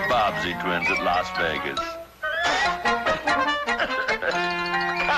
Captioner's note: Mr. Magoo blowing